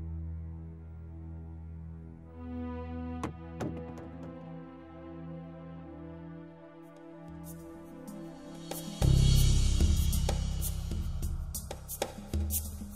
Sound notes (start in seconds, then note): 3.2 thumping on door; 8.6 moody hand drum instrumental